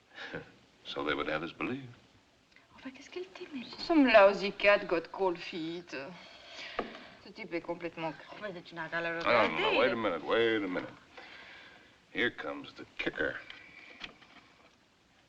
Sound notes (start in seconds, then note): 0.2 chuckles; 2.8 French